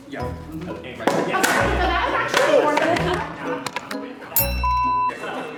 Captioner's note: wood thudding; bell dinging